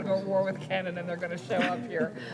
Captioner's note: laughter